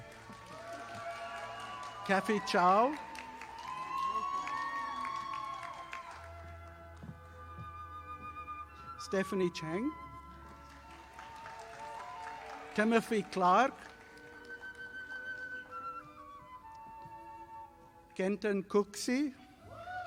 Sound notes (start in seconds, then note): 0.0 audience applauding; 10.3 audience applauding